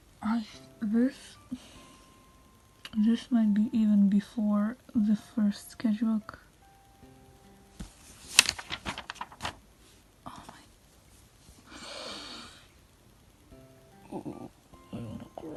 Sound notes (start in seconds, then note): 8.1 deep breath; 11.7 sigh